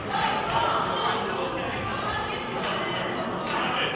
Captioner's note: murmurs; players cheer